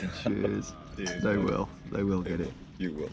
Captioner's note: glasses clinking